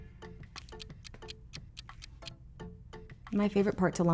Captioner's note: timer ticking